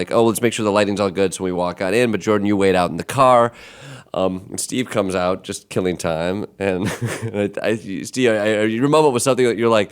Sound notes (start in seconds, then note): 6.8 chuckling